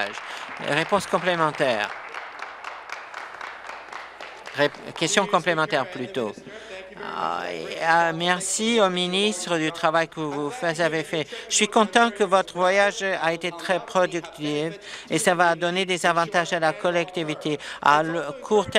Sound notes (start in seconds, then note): 3.1 applause